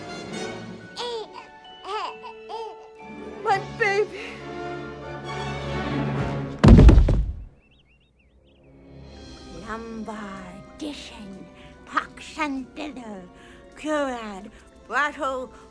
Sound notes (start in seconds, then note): 1.8 baby giggles; 6.6 thud